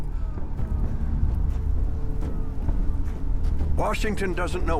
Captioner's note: wind whistling